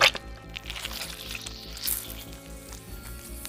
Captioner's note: Squelch